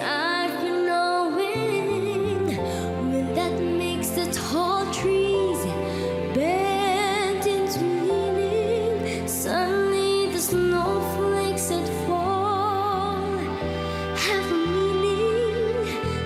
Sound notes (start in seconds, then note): none